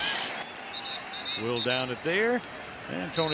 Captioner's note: whistle blows